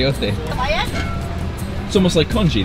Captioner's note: woman speaking in foreign language